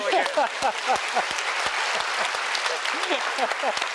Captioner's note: applause